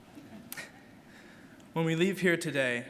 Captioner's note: chuckles